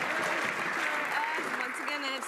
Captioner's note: some Applause